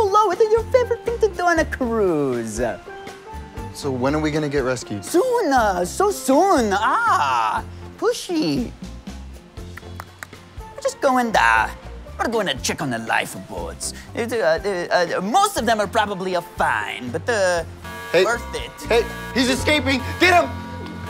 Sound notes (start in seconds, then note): 9.6 clicks tongue; 17.7 alarm blares